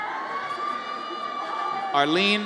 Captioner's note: audience cheers